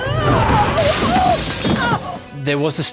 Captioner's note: Lydia screams; window smashes